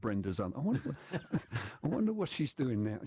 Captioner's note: laughter